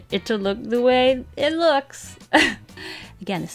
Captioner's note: laughs